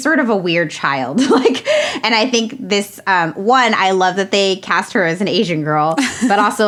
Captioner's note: laughs